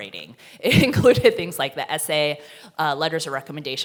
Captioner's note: chuckles